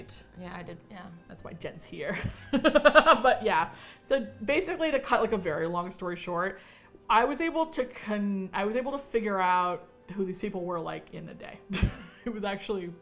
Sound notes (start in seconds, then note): 2.1 laughs; 11.7 chuckles